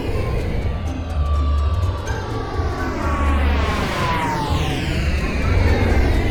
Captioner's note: airplane engine roaring